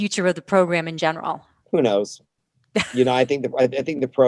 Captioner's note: laughs